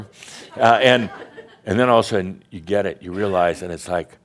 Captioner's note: more chuckles